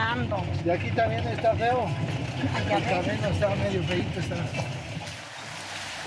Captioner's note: driver speaking in foreign language